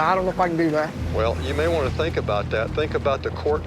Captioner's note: on phone